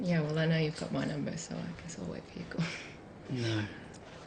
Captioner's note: chuckles